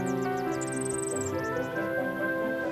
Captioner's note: chirps